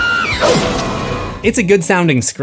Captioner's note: screams